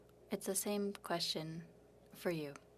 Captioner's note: speaking French